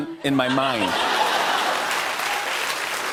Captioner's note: laughter